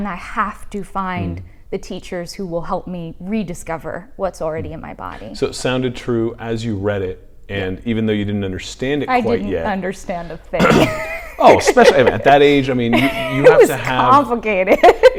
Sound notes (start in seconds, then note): 10.6 laughs